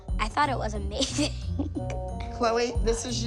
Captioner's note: laughs